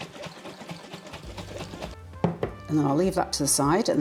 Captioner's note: liquid sloshing